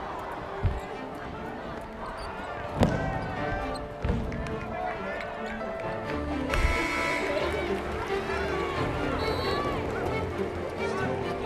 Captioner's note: sound of a crowd at basketball game